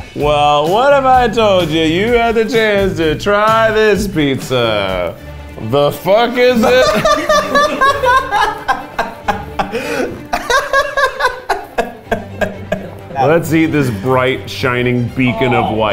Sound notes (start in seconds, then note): 6.5 laughs loudly